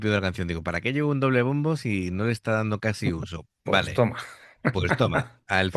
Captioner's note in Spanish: risas